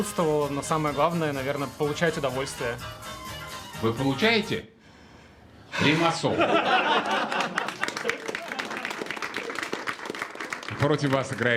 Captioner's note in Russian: смех; аплодисменты